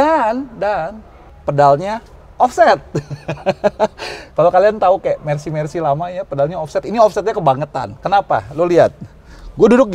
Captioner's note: laughing